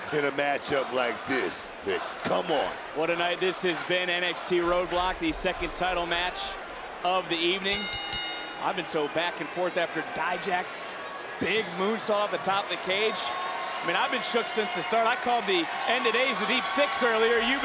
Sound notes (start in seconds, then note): 7.7 bell rings